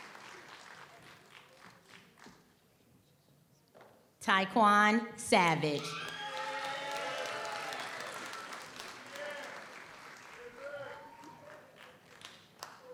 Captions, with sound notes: Tai Kuan Savage. (audience applauds) (audience cheers)